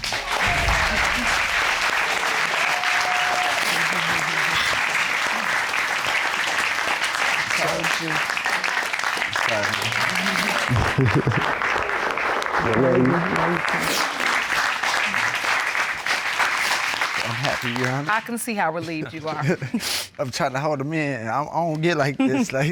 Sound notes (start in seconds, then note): 0.2 applause; 9.6 laughs; 14.1 applause; 19.7 sniffs